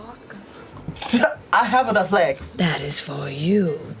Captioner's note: laughs